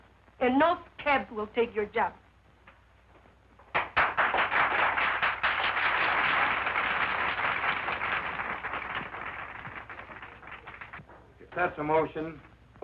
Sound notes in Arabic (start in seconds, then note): 3.7 تصفيق النساء